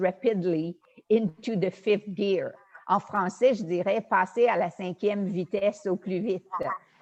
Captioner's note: speaks foreign language